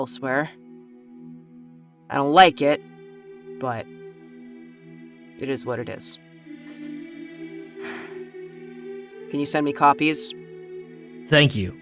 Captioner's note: sighs